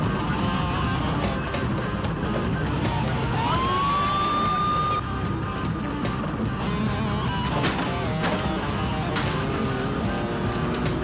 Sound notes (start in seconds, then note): 3.2 siren wails